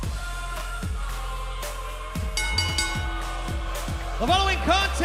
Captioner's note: bell ringing